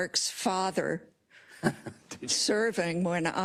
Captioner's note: laugh